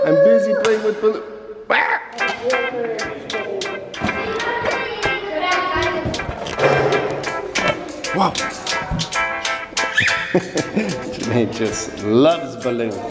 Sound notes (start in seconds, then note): 1.7 dad screams; 2.1 balloon popping; 3.3 upbeat music